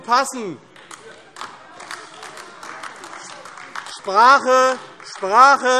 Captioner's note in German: Beifall AfD - Zurufe BÜNDNIS 90/DIE GRÜNEN